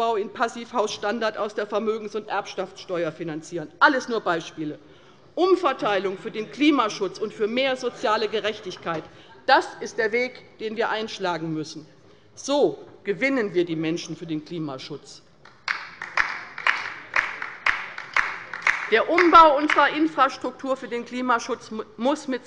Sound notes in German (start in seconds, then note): 15.4 Beifall bei der LINKEN